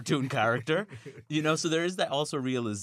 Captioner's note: laughter